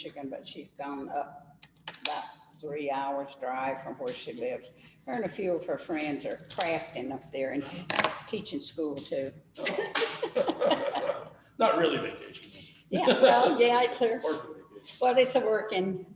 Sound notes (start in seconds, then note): 9.6 laughter; 9.6 laughs